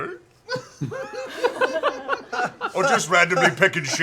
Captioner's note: laughter